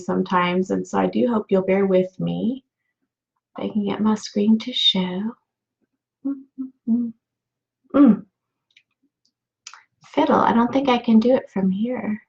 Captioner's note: humming